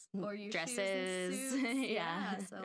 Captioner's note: laughing